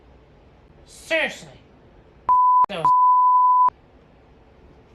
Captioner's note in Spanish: bip